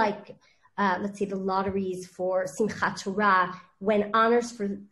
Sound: speaking in foreign language

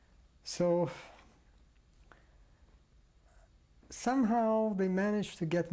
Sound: pauses for 3 seconds

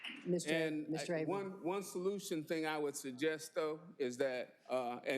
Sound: applause

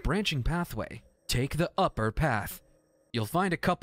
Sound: IGN Guide Voice

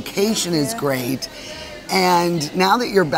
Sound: people chattering in distance

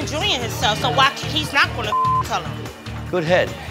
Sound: beep

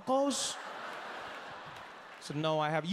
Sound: audience laughing

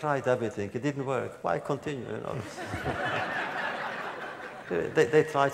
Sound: laughter

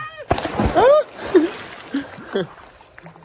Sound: water splashing

